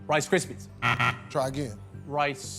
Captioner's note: buzzer